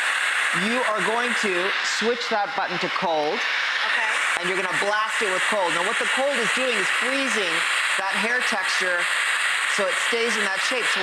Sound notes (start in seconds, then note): none